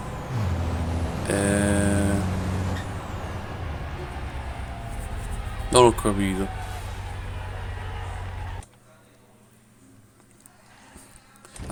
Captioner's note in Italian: Applauso